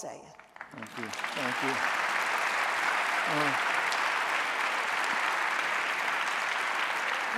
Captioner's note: audience applauding